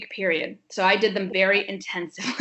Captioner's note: chuckles